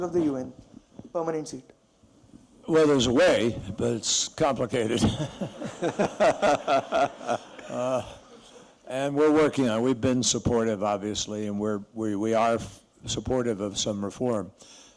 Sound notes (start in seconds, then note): 4.9 laughter